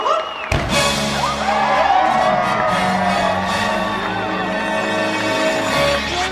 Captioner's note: audience cheering and applauding